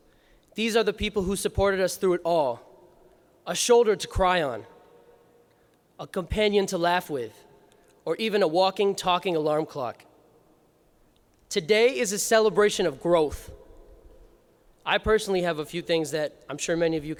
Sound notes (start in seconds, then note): none